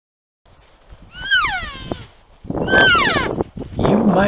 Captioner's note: cow Elk Calls